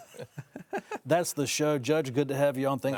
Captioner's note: guests laughing